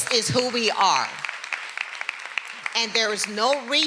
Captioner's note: everyone applauding